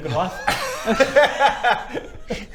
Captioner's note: disturbed giggles